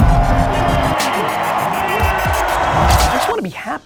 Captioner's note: crowd cheers